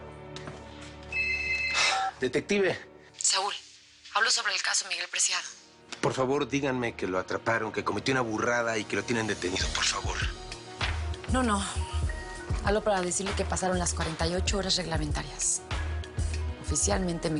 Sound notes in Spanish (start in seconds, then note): 1.1 Bip